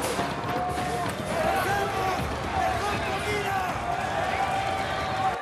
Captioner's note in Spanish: Gritos